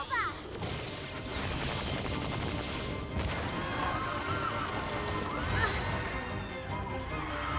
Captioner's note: explosion and screams